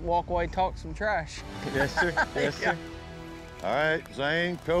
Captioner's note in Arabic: ضحك